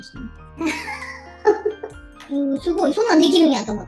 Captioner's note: laughs